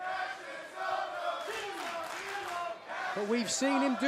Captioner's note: fans chanting